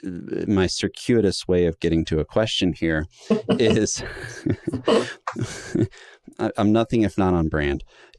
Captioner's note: chuckles